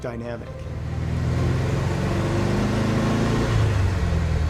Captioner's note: car engine roaring